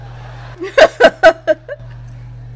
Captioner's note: laughing